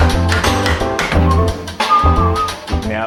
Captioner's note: he whistles